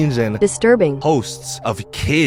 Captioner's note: computer Voice